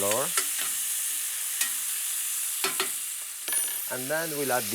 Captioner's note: sizzling